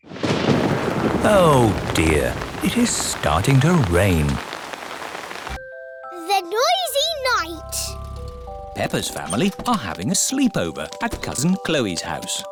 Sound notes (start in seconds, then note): 0.0 thunder rumbling; 4.9 downpouring